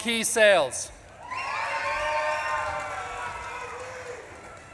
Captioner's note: audience claps and cheers